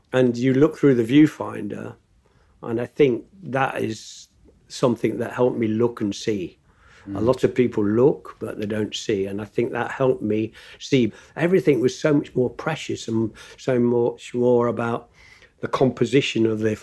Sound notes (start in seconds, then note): none